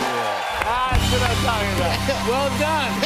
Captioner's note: cheers and applause